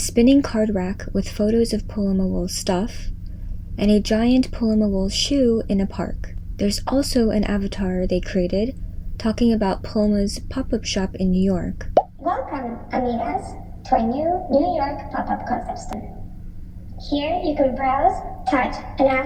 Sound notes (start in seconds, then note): 12.2 robotic avatar speaking